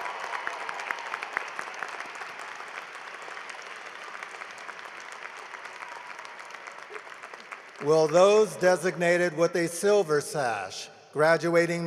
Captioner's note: cheering and applause